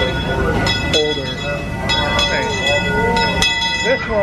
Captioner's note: train bell ringing